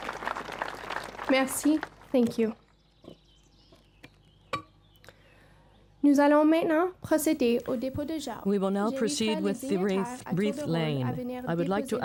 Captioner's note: applause